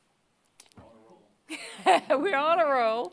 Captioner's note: laughing